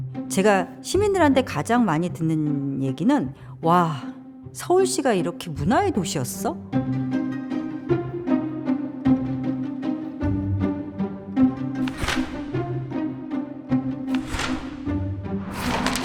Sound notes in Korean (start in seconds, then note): 11.8 책 넘기는 효과음